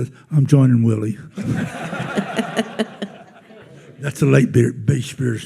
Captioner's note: attendees laughing